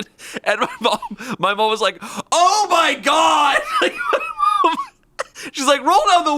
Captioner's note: laughs